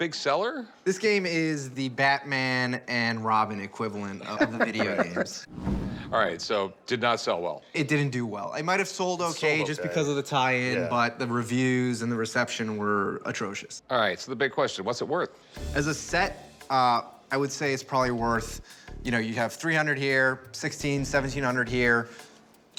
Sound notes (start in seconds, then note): 5.1 laughs